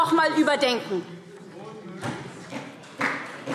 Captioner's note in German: Vereinzelter Beifall SPD - Zurufe